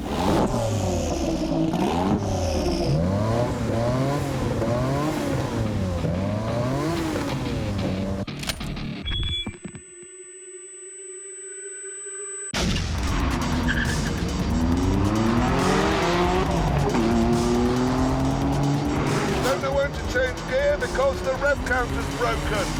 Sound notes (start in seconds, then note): 0.0 engines rev; 13.7 tyres screech; 14.8 engines roar